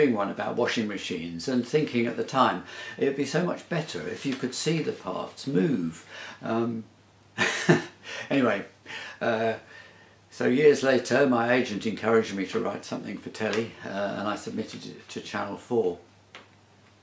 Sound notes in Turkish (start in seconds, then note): 7.4 Gülüşmeler